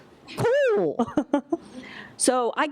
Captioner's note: laughter